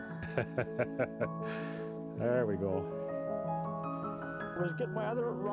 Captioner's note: laughing